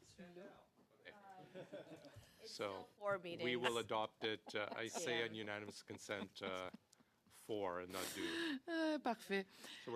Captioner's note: laughter